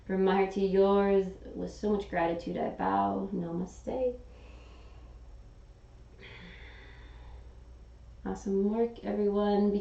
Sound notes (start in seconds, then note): 4.3 exhaling; 4.3 inhaling